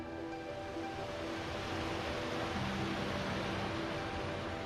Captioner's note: water flowing